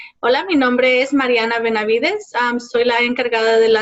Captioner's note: speaking Spanish